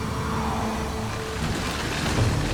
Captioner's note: crashing hail